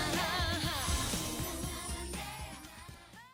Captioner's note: chiming